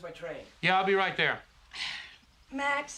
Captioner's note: Rita sighs